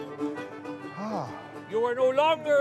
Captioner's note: lightly sighs